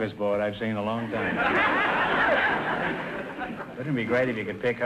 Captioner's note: audience laughter